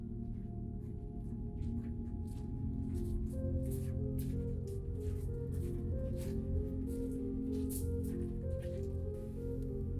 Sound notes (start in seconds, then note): 2.3 soft orchestral music; 3.5 walking footsteps